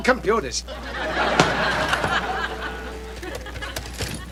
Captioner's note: audience laughing